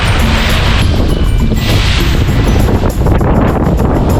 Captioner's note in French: Son du vent et de l'eau